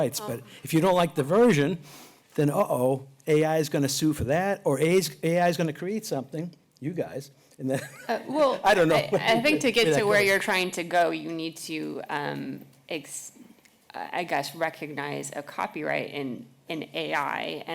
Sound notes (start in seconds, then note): 7.8 laughs